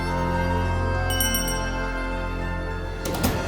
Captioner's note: doorbell rings